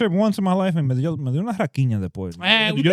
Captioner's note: speaking In Foreign Language